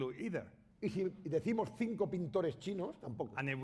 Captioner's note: speaking spanish